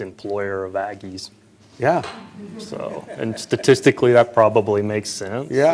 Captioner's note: laughter